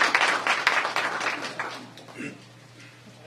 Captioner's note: applause